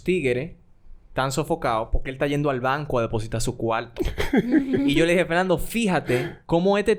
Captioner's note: laughs